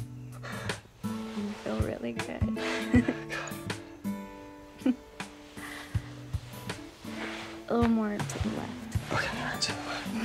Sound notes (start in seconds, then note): 2.5 giggles